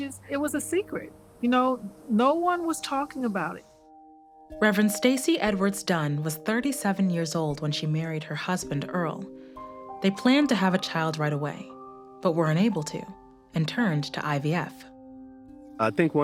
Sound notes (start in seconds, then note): none